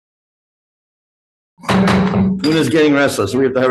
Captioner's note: gavel bangs